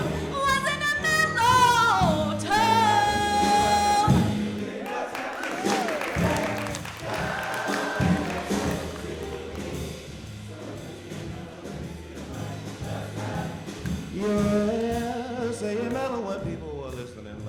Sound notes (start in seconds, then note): 4.8 applause